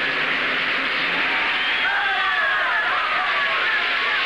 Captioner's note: crowd Cheering